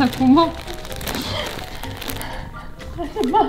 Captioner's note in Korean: 웃음